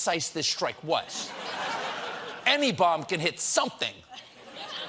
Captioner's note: laughter